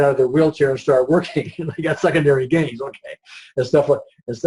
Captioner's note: laughs